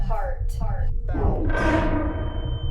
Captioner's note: ominous musical score; echoes